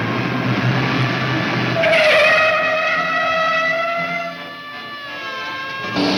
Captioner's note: tires squealing; siren blaring